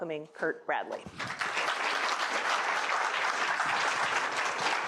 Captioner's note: applause